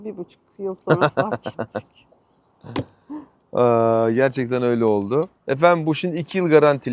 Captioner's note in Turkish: kahkaha